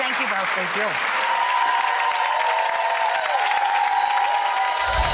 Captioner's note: cheers and applaud